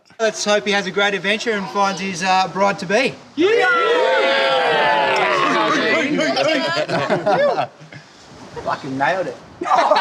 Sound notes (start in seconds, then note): 3.4 all cheer; 6.4 laughter; 9.6 laughter